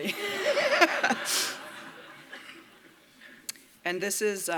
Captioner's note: laughter